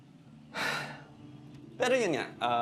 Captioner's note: sigh